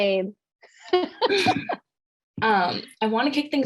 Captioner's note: laughs